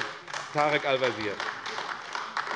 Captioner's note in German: Beifall AfD